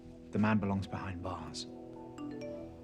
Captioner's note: cell phone chimes